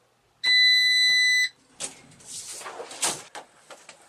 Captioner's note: machine beeps